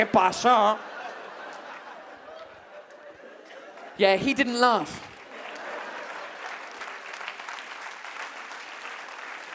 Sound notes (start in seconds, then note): 5.0 audience claps